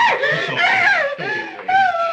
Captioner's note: screams